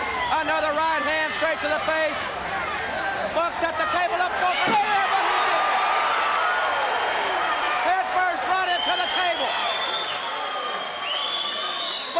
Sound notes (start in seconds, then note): 4.5 crowd cheering